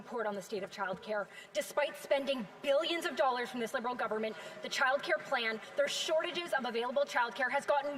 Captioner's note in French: voix de l'interprète